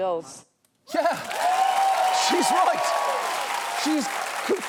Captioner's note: studio audience cheering